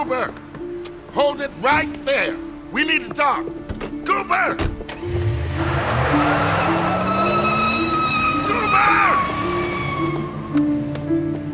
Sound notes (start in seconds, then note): 4.7 car engine starts; 5.0 car revs away; 7.5 tires squeal